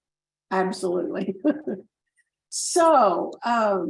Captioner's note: chuckles